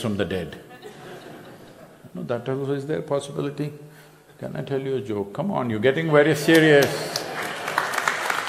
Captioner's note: few laugh